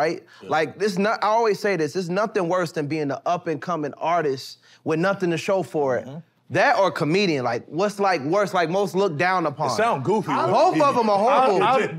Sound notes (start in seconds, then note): none